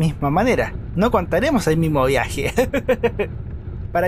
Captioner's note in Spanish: risas